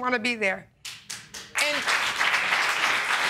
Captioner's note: clapping